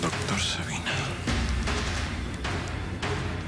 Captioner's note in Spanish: Habla para sí